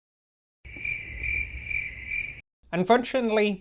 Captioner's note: crickets Chirping